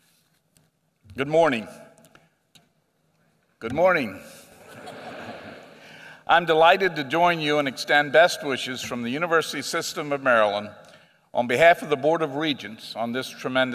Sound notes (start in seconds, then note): 4.6 laughter